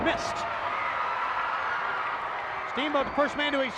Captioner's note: audience cheers